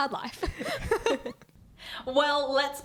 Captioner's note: laughing